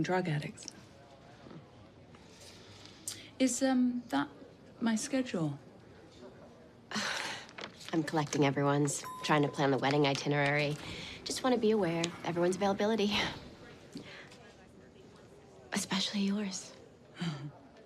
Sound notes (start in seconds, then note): 9.0 elevator bell dings